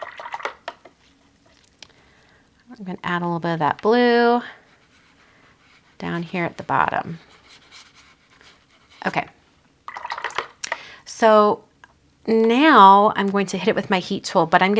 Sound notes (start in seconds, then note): 0.0 water gurgles; 0.0 brush tapping; 9.8 water gurgles